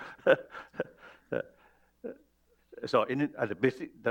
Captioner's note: laughs